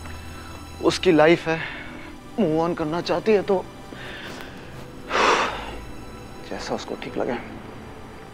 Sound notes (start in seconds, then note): 5.1 Aniket exhales